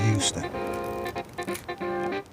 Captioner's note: keyboard clacking